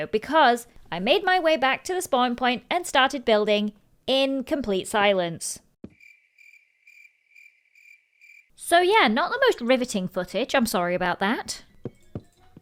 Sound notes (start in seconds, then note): 5.9 crickets chirping